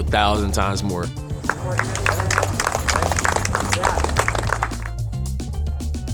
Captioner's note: clapping